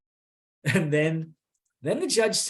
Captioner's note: chuckles